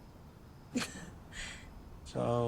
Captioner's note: laughs